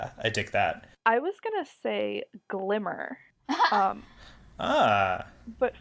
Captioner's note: laughs, surprised